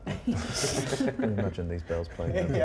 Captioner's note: laughter